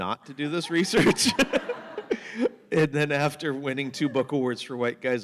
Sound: laughter

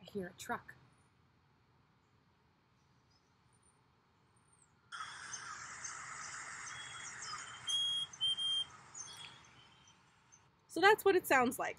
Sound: chickadee call

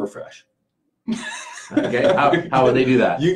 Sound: laughing

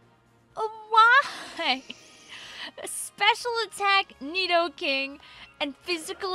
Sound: laughing

